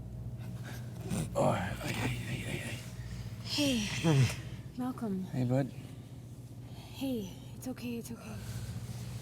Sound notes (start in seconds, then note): 1.0 moans